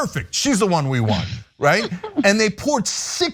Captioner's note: laugh